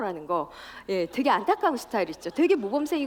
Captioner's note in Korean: 웃음